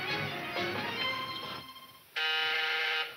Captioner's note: intercom buzzing